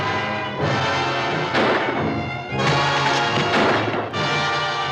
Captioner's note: tense dramatic music; guns firing